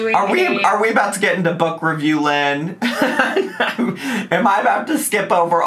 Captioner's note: laughs